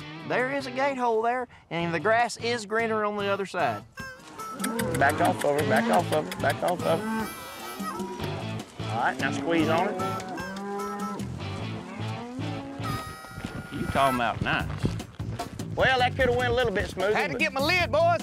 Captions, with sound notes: THERE IS A GATE HOLE THERE AND THE GRASS IS GREENER ON THE OTHER SIDE. [CALLING] BACK OFF OF HER, BACK OFF OF HER. BACK OFF OF HER. ALL RIGHT, NOW SQUEEZE ON HER. YOU'RE TALKIN' ABOUT NICE. WELL, THAT COULD'VE WENT A LITTLE BIT SMOOTHER. HAD TO GET MY LID, BOYS!